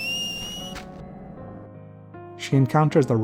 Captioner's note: whistle